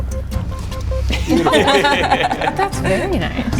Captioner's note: laughing